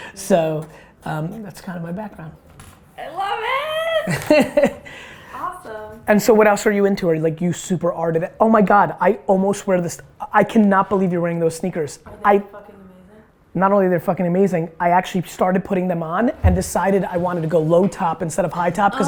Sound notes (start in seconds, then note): 4.0 Gary laughs